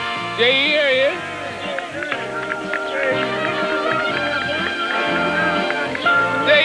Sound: applause

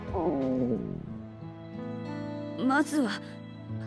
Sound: growl…

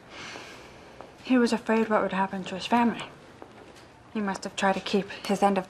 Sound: sighing

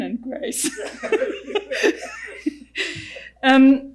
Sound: laughing

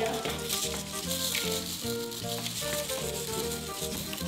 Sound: sprinkles pouring

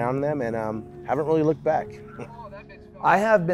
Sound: chuckles

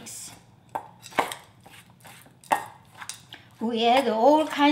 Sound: spoon tapping

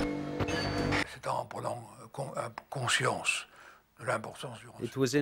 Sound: French spoken audio

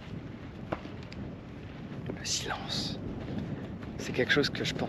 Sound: footsteps; speaking in foreign language

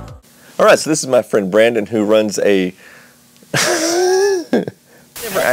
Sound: laughing Wheeze

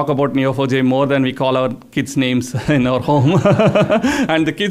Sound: laughs

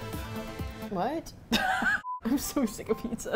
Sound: laughing; laughs

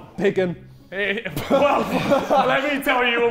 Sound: Sidemen laughing

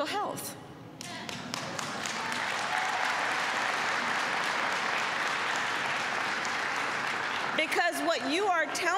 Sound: applause

